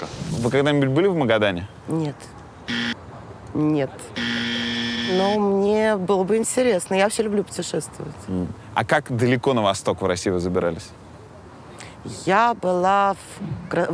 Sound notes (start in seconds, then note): 2.6 buzzer sound; 4.1 aggressive buzzer sound